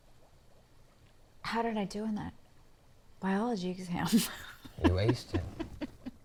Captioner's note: laughs